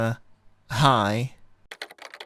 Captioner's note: typing